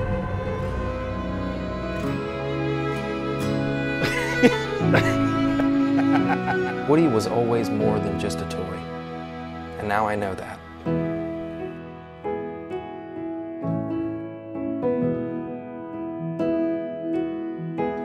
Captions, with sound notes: (gentle music returns) (laughter) - Woody was always more than just a toy. And now I know that. (gentle music)